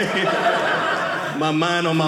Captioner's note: audience laughing